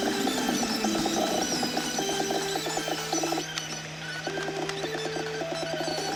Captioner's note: sped up audio sounds